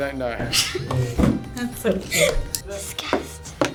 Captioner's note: laughs